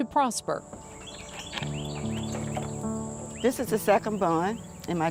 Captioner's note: birds chirp